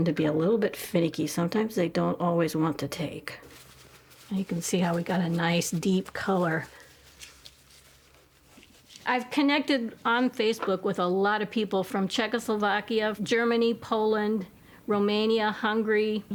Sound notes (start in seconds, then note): 6.9 scruffing sound